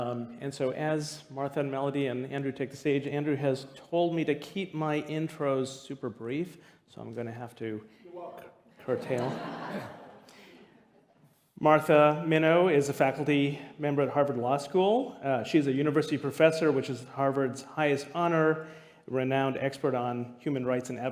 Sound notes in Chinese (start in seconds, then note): 8.8 笑聲